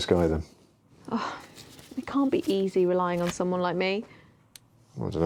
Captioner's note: sighing